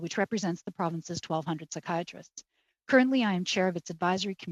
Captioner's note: speaking french